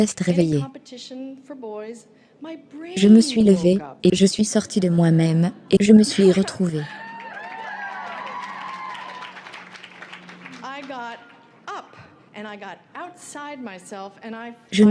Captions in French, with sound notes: pour les garçons mon cerveau s'est réveillé. (applaudissements) Je me suis levé et je suis sorti de moi-même et je me suis retrouvé